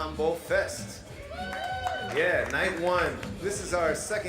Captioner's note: crowd cheering